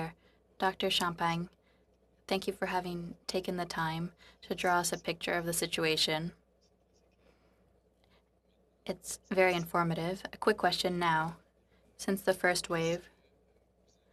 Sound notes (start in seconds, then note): 6.7 speaking French